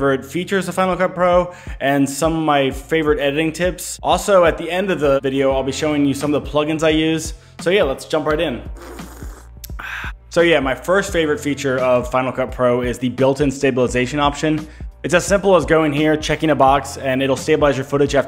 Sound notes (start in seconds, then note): 8.7 slurp; 8.7 gasps